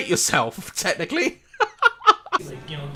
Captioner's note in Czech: smích